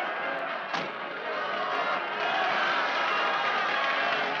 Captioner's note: crowd cheering